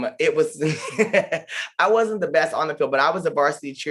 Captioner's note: laughs